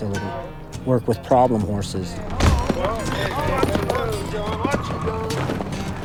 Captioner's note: stomping and bucking